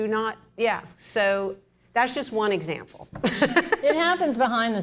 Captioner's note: laughs